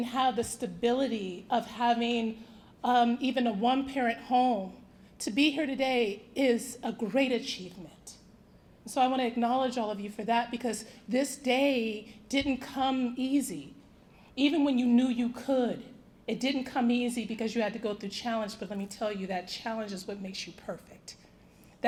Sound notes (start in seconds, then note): none